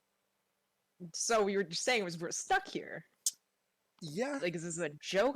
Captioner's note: sucks teeth